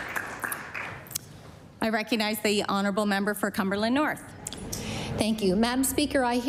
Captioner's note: applause